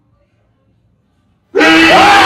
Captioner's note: screaming; roars